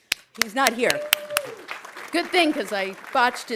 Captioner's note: audience applauding; audience cheering